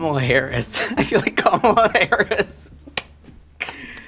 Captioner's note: laughs